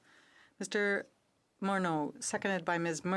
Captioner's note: speaking French